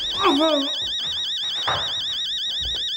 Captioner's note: grunting